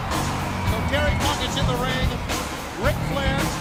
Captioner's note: crowd cheering